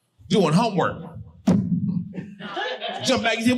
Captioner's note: thumps mic